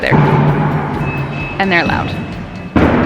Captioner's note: banging